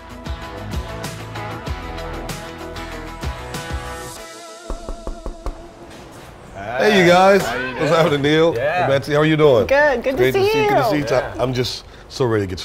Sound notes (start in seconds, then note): 0.0 upbeat music; 4.7 person knocking on door